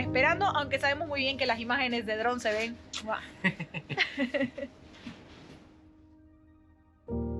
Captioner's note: laughs